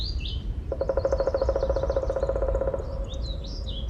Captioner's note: birds singing; woodpecker drumming